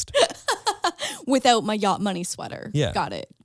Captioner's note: laughs